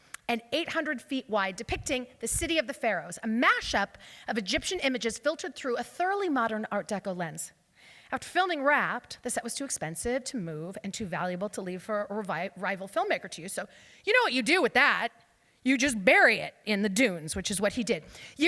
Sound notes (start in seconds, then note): none